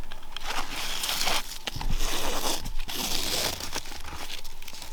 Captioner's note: strap scraping